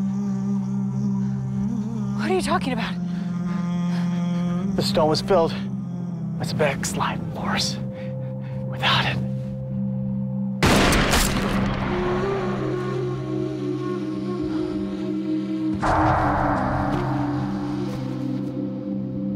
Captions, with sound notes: - What are you talking about? - The stone was filled with Sebek's life force. Without it... (gun blasting) (somber music)